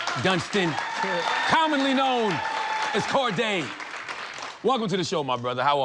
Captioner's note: audience applauding